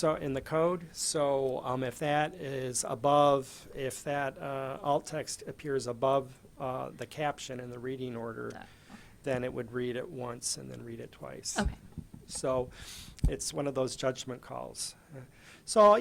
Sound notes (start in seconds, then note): 0.0 voiceover; 11.8 voiceover